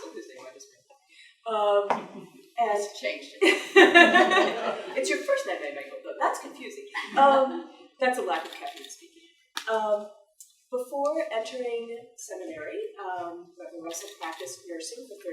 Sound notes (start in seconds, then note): 3.5 all laughing; 6.9 attendees laughing